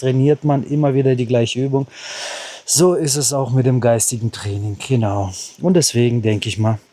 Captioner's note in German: japst